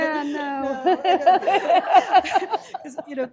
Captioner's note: laughter